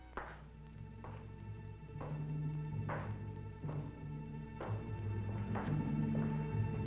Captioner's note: footsteps tapping; intense music